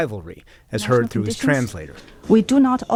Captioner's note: through translator